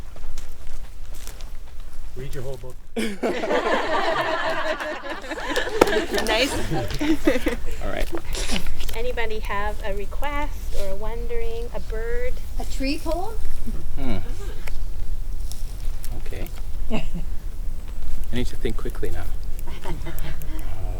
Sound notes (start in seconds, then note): 3.0 crowd laughs; 9.8 group lightly laughing